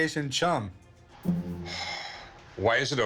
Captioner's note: sighs